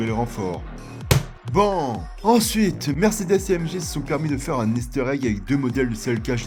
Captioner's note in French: clap